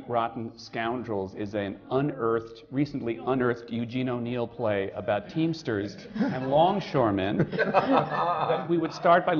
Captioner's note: laughter